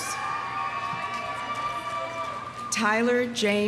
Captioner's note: audience cheering